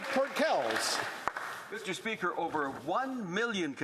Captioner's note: some Applause